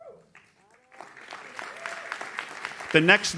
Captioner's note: audience cheers